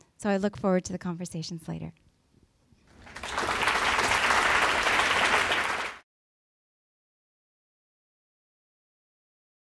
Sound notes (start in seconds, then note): 2.9 applause